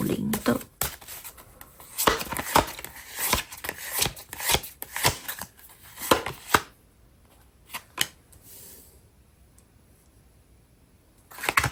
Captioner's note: drawing cards